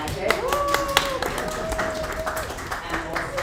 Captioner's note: audience applauds